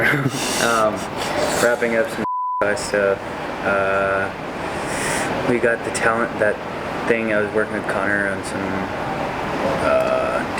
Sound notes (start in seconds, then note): 0.0 laughs; 4.5 beeps